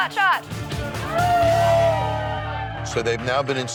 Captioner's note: spies cheering